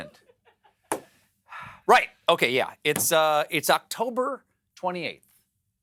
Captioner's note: laughter